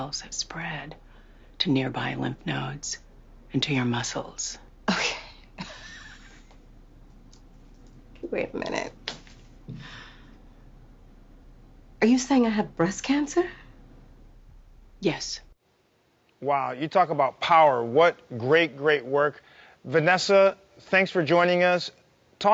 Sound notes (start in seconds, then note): 4.8 chuckles; 9.6 inhales deeply